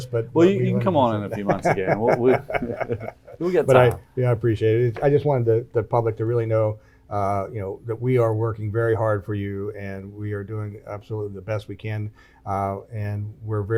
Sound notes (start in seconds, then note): 1.0 chuckles; 1.2 laughs